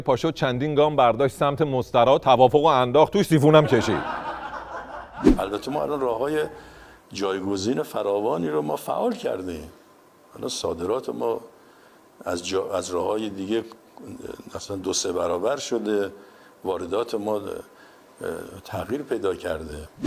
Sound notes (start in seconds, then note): 5.4 laughter